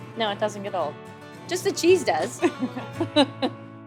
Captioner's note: laughter